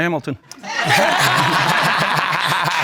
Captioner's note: all laughing